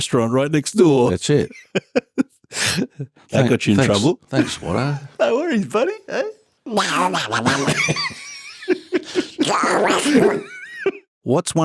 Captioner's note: Donald Duck sounds